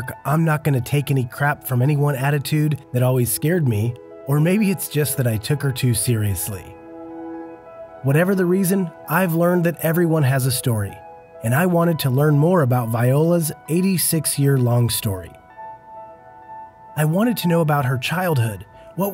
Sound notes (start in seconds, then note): none